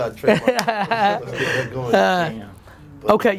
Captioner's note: laughing